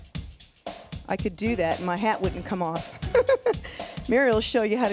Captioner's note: laughs